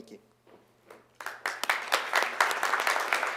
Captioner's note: applause